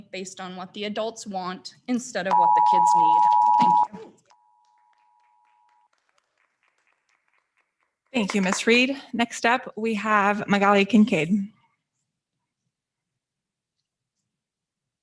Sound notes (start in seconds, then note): 2.3 timer beeping; 4.5 audience members applauding